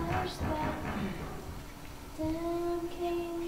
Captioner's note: banging